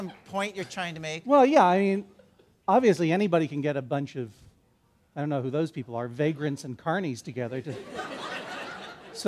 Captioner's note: laughter